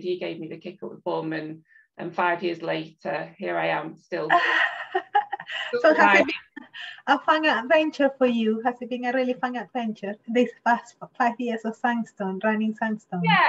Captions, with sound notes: He gave me the kick of the bum and five years later, here I am still. (chuckles) - A fun adventure for you. Has it been a really fun adventure this past five years of SunStone, running SunStone?